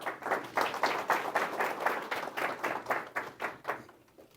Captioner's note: audience applauding